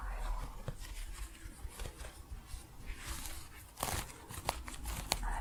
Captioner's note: crunchy scratching